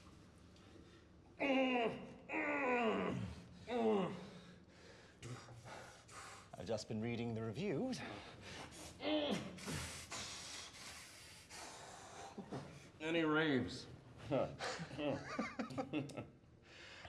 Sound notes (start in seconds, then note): 1.4 groaning; 14.4 laughing